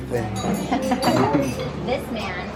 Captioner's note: parents chuckle